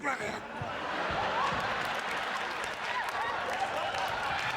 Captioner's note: cheers and applause